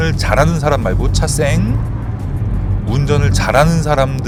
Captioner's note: the vehicle is passing